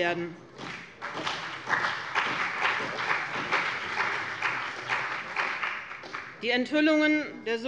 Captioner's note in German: Beifall bei dem BÜNDNIS 90/DIE GRÜNEN und der CDU